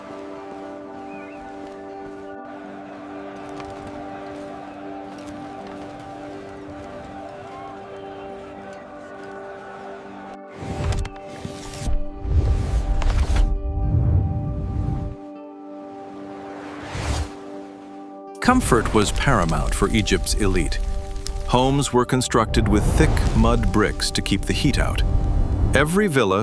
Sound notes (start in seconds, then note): 0.1 instrumental music plays; 18.4 crowd cheers